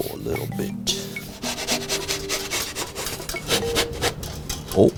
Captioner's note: wood scraping